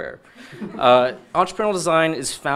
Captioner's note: audience laughing